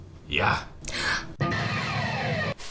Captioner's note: gasp; hard rock guitar